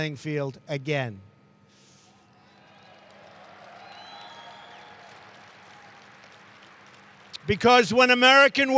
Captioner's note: applause